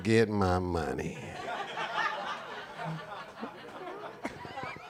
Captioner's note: audience laughing